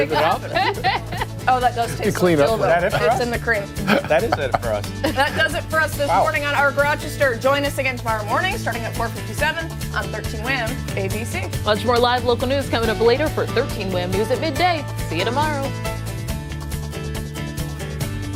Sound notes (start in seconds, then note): 5.0 laughter